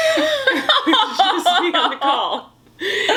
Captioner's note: laughs